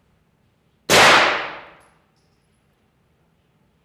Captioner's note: gunshots